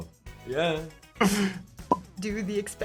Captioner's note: Sean laughs